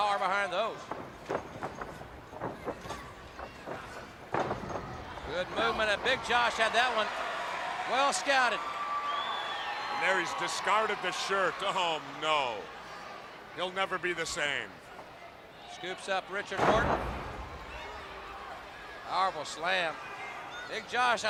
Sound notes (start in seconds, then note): 9.2 crowd cheering; 17.1 crowd chatter